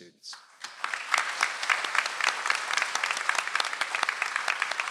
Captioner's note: audience applauds